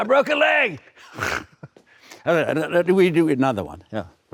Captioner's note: laughs